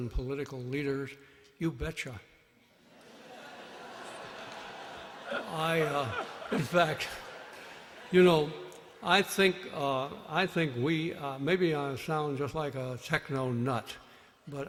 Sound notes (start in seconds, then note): 2.8 laughter